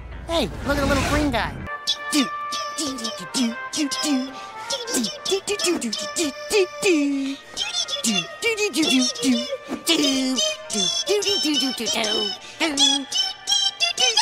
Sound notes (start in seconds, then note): 4.6 humming angrily